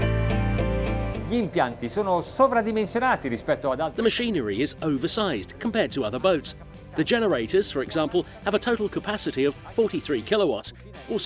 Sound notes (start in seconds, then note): 1.5 speaking Italian